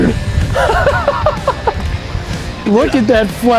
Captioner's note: laughing happily